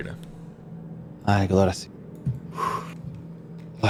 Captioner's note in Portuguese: suspiro